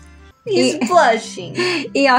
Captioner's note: giggle